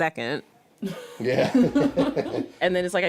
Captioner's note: laughs